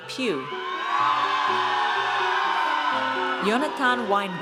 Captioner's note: audience cheers